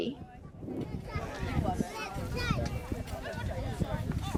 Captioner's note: people chattering